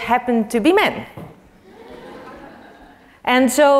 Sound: laugh

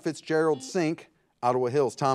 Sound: buzzer buzzes

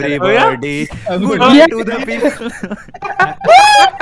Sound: laughter

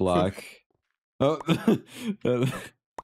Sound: wheeze

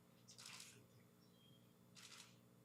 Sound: camera shutter clicking

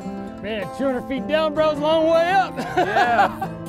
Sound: laughs

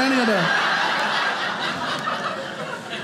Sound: audience laughing

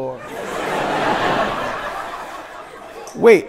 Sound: people laughing

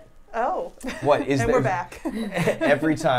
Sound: laughs

